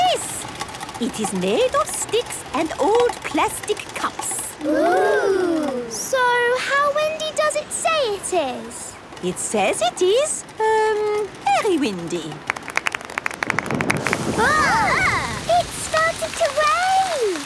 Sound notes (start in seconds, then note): 12.4 exclamations; 13.4 thunder